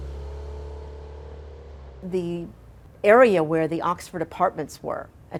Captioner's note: car driving